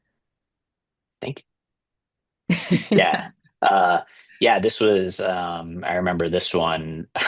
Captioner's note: laughter